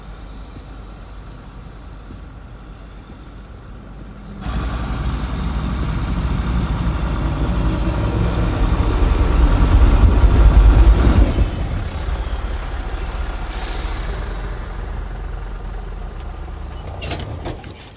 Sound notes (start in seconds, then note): 0.3 tractor sound continues; 8.0 tractor sound continues; 15.6 tractor sound ends